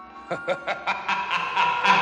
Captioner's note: laughing